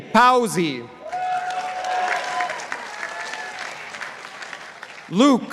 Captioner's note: participants applauding